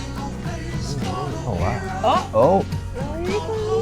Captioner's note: gasping